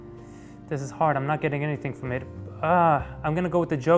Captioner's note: sighs